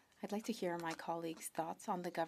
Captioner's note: speaking French